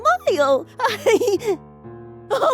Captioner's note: laughs